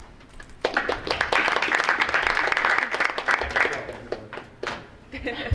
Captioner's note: audience applauding